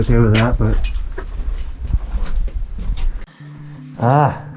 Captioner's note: metal clinking